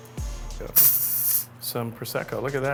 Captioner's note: wine fizzes